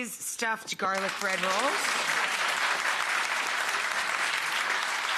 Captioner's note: crowd applauding